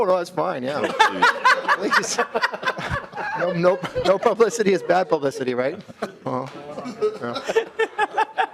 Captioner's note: laughing